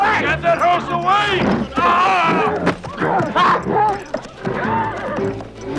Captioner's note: groans; horse neighing